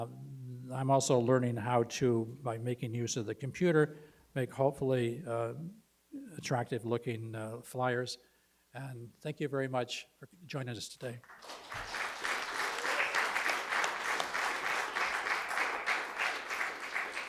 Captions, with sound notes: I'm also learning how to by making use of the computer make hopefully attractive looking the flyers and thank you very much for joining us today. (applause)